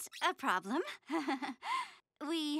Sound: laughing

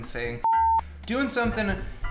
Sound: high pitched tone

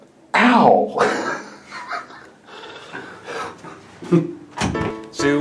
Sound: breathy laughter

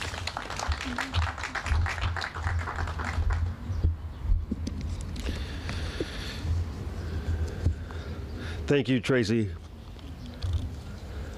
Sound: applause

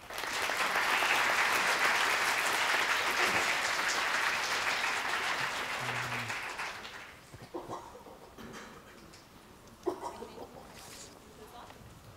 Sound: applause

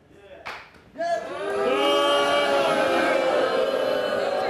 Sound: audience booing

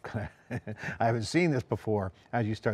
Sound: chuckles

